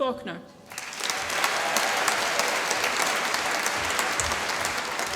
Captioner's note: applause